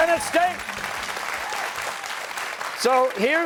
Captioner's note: cheers and applause